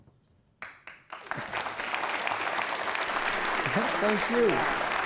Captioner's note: applause